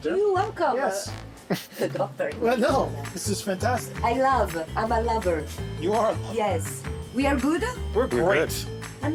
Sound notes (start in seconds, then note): 1.4 chuckles